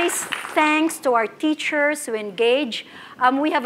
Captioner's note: applause